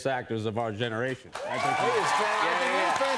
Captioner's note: cheers and applause